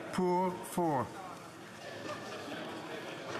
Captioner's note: speaking French